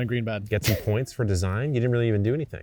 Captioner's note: chuckling